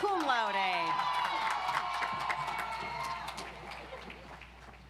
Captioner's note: audience applauds